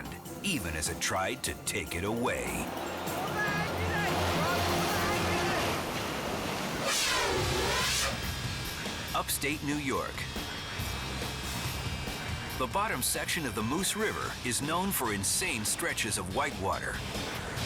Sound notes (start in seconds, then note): 4.7 waves crashing; 6.8 air whooshes; 7.9 lively upbeat music